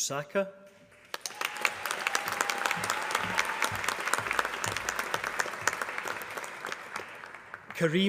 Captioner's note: applause